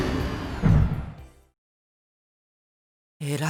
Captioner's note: silence